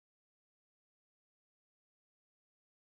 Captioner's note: none